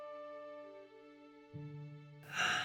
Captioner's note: yawning